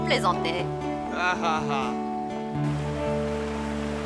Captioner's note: laughing